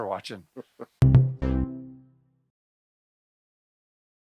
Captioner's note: chuckles